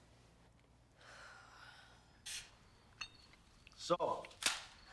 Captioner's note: Kelly sighs